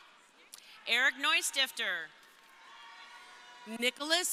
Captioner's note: crowd cheering